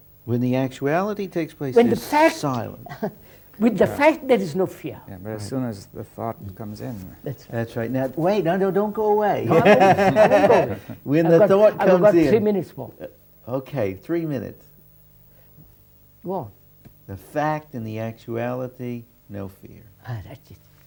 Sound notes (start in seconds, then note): 9.4 laughs